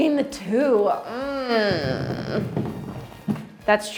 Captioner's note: groaning